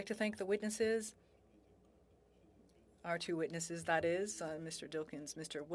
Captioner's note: speaking French